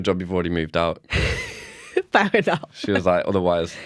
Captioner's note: laughter